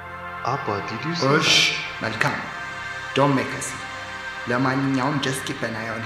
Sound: man speaking foreign language

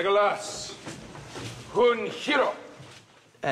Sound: speaks in elvish

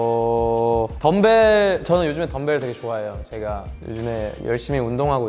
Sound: speaking in Korean

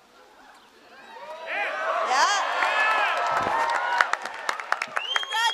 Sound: cheering

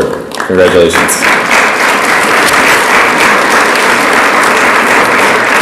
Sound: audience applauds

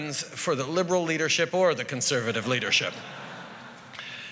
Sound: laughter

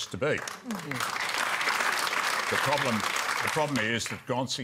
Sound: applause

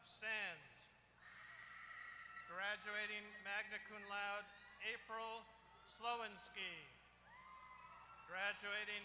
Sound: applause

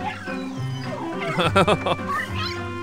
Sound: laughter

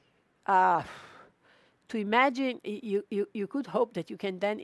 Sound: exhales

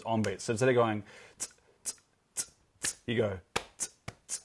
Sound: ts, ts, ts, ts; claps, ts, clap, ts, clap, ts

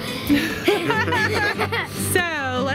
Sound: laughs

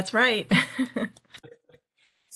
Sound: laughs

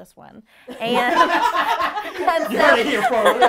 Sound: group laughing; laughing

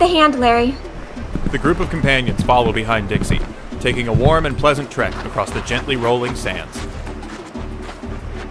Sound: footsteps on wooden pier, then sand

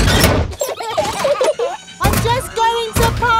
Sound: children giggling

